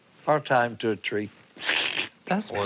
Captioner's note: chuckles